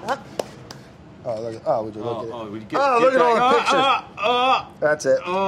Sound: gushing in unision

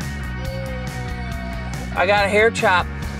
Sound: groans

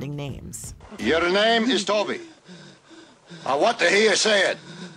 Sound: breathes heavily

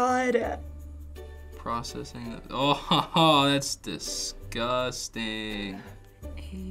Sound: chuckles

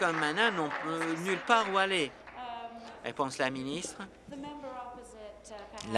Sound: applause

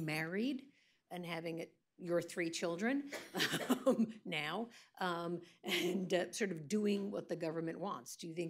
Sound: laughs

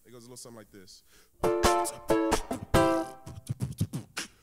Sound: beatboxing

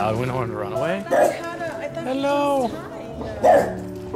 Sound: barks; barks

